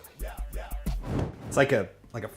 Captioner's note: upbeat rap music; whooshing